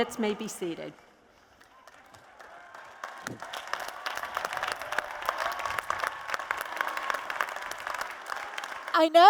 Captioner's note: applause and Cheers